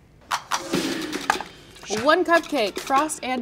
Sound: metal clanging; upbeat sound effects

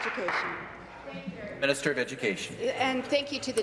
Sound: applause

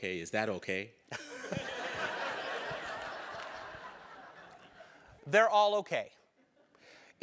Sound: laugh

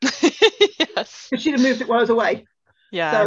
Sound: laughs

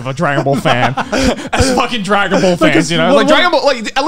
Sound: laughing

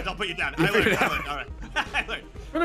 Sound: laughs

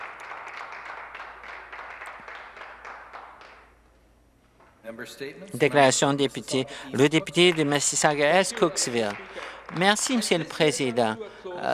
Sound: some Applause

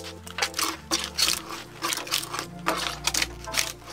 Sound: bark being shaved from the log

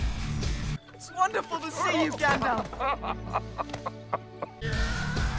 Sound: laughter

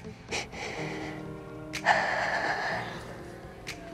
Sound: sobbing

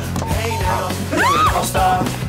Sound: screams

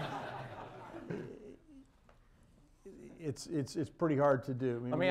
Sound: laughter

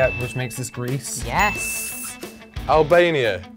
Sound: bell dings

